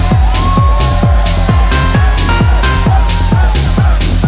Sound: high-energy techno music continues; crowd cheering; high-energy techno music continues

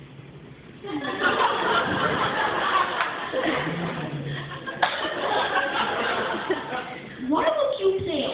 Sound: laughter

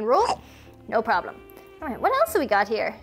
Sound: mouth chomping

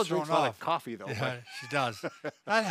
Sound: both laugh

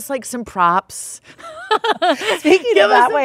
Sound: laughing

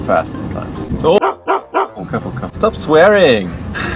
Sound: dog barking

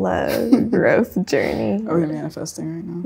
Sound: chuckles

